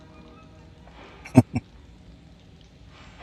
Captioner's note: chuckling